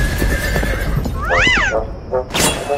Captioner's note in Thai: เสียงม้า